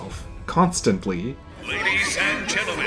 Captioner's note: NPC chatter